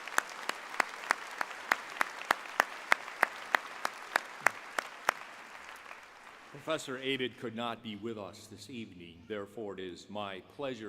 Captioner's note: applause